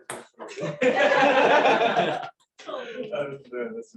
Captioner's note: laughter